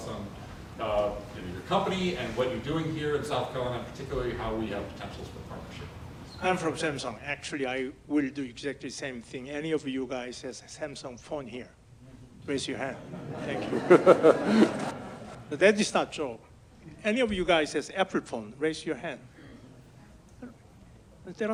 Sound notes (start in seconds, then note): 12.9 audience laughs